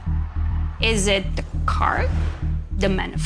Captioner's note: screen whooshing